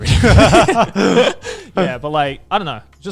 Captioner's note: everyone laughs